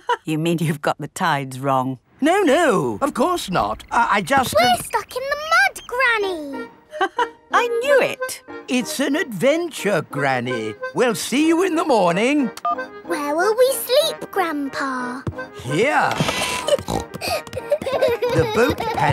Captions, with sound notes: (LAUGHS) You mean you've got the tides wrong. No, no, of course not, I just... We're stuck in the mud, Granny! (LAUGHS) I knew it! It's an adventure, Granny! We'll see you in the morning. Where will we sleep, Grandpa? -Here! (SNORTING) (KIDS GIGGLING)